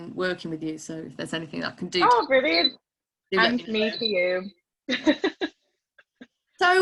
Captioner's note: laughs